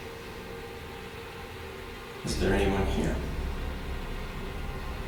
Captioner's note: faintly speaking